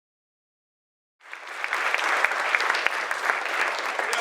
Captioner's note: applause